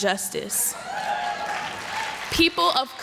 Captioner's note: applause